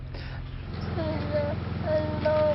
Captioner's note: weak whimpers